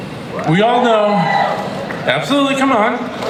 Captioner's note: crown cheers